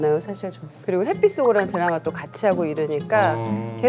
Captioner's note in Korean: 속닥속닥